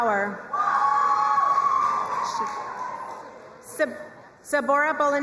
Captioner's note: crowd cheering and applauding